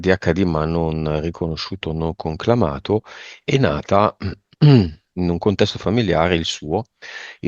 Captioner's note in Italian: schiarire la voce